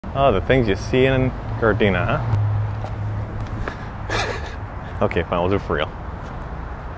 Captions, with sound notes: - Oh, the things you see in Gardena, huh? (laughing), Okay, fine, we'll do it for real.